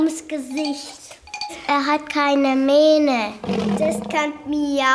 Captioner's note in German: Brüllen